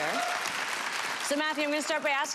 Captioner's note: audience applause